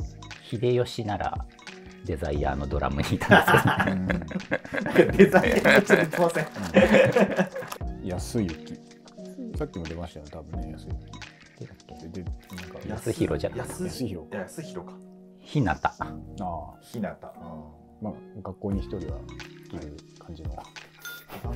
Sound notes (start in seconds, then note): 3.2 laughing